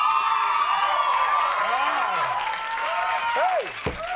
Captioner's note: audience cheering